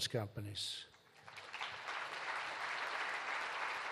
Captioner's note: applause